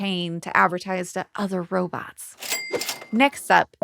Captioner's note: coins chimes